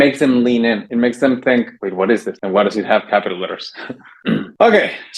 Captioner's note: clears throat